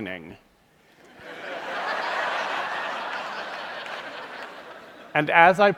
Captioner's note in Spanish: Risas